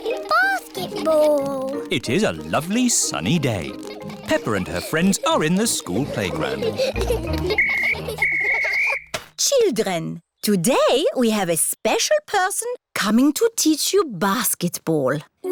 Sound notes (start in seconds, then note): 7.5 blows whistle